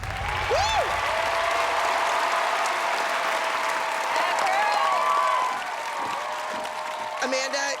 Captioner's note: applause